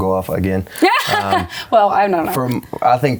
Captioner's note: laughs